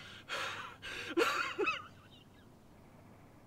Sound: crying

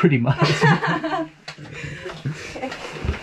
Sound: laughing

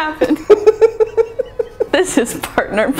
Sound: laughing

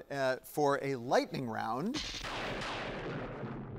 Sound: thunder booms

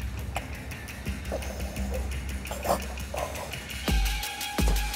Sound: victim gurgles; suspenseful music

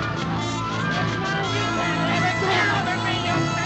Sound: muttering

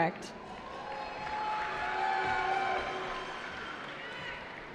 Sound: cheering

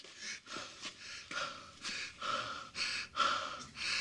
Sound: panting

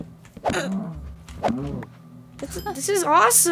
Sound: cow groaning

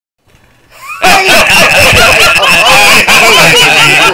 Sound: all laugh

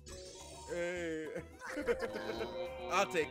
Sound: laugh

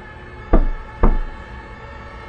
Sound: knock, knock

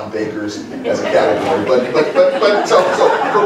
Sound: laughter

